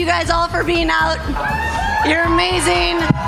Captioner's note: crowd cheers